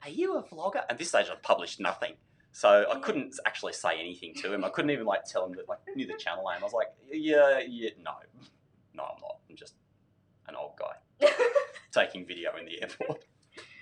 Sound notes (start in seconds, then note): 11.1 laughs